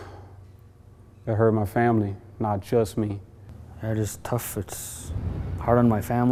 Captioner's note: sigh